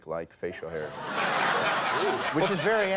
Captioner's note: audience laughing